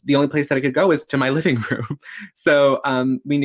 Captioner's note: laughs